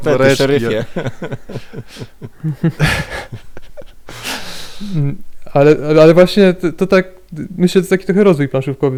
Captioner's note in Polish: śmiech